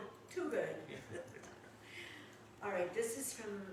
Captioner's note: laughing